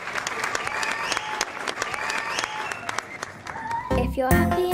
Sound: applause and cheering

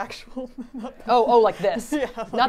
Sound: laughs

